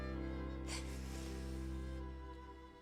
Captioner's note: sobbing